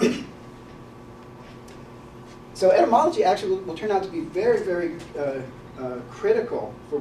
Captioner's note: cough